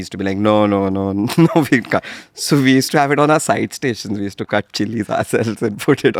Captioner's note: laughs; laughs